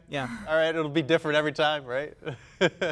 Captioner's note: laughing